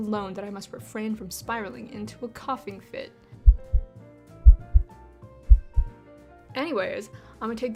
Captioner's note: heartbeat intensifies